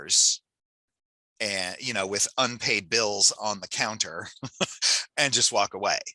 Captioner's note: chuckles